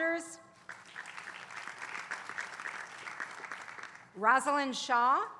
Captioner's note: applause